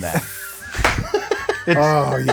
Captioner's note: laughing